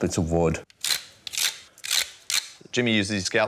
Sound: scrapes

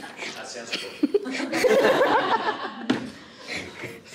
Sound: laughs

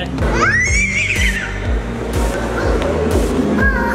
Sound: screaming

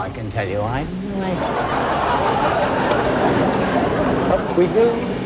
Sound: crowd laughing

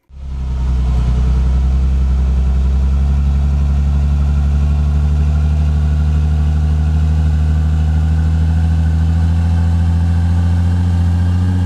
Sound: motor humming

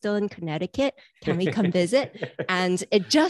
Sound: chuckles

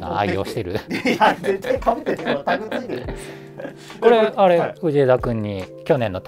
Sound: laughing

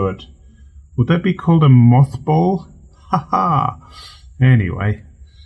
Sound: laughs

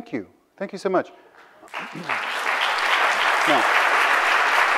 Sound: audience applauds

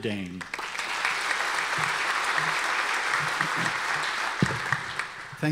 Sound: audience applause

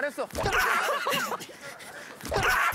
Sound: laughing

